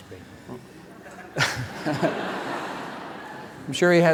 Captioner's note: laughter